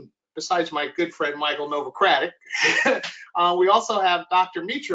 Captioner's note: laughs